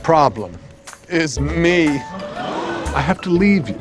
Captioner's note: people gasp